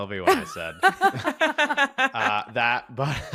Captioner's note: laughter